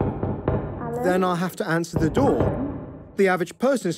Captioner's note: echoing knock continues; panicking rapidly